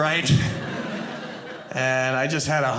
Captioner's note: audience laughing